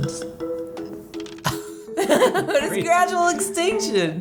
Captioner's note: laughing